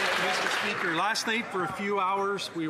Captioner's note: some Applause